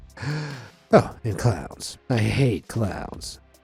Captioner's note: narrator inhaling